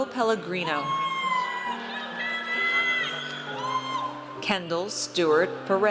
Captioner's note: audience cheers